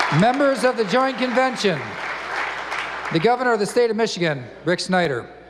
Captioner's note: applause